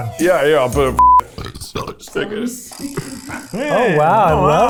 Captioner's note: beep; burping